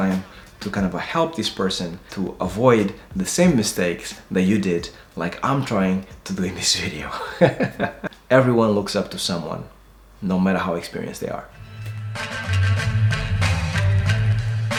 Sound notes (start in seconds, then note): 7.1 laughs; 11.6 upbeat music